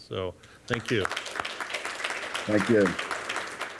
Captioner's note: applause